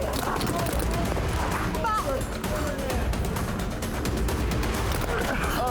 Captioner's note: gunfire